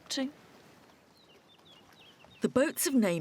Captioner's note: birds chirping